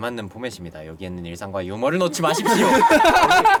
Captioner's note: ahem; laughter